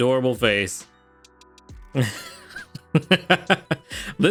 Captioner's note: laughing